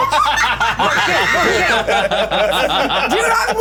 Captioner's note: laughter